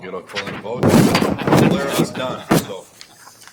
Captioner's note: laughing